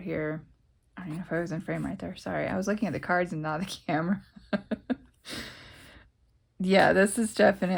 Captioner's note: laughs